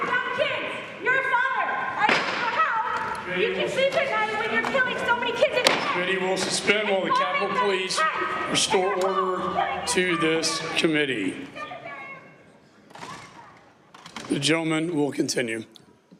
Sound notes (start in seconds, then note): 5.5 shouting